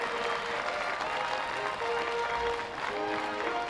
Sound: applause

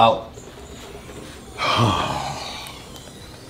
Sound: sighs

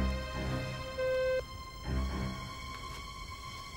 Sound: beeping

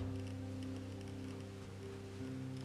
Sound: none

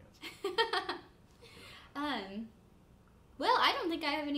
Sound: chuckling

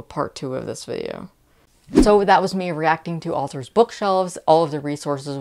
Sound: whoosh

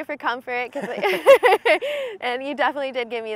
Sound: both laughing

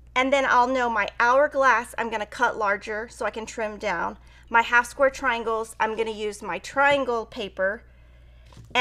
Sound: none

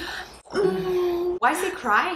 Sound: moans

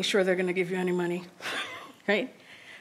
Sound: laughs

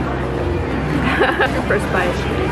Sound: chuckles

